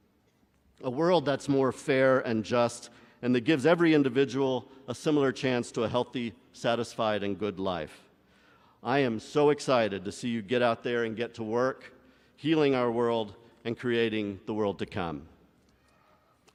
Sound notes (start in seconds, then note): none